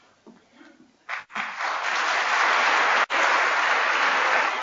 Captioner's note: applause